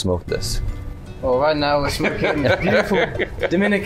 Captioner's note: laughs